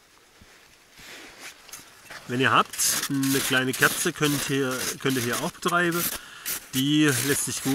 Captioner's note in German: scratching